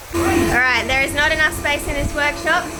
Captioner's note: none